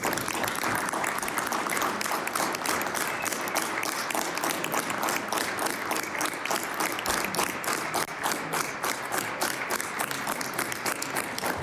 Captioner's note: applause